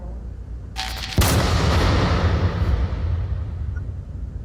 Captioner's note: gun fires